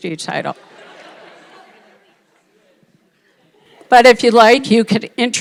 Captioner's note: audience laughing